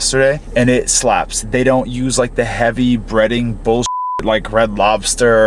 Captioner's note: beep